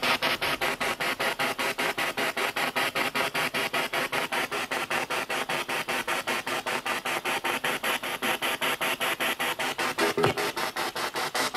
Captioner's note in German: Noise of the spiritbox in the background